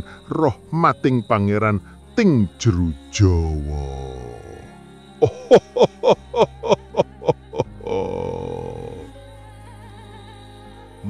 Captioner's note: laughs